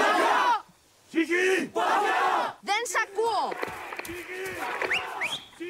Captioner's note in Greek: χειροκρότημα